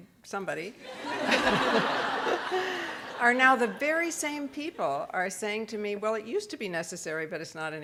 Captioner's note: audience laughs